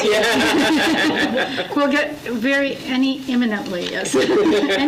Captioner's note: laughs